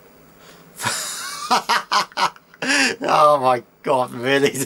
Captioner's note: chuckles